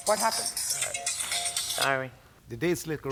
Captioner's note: phone ringing